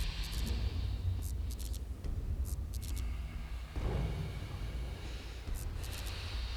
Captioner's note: Brian inhales; electricity buzzes